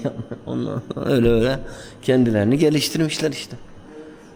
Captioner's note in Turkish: boğazını temizler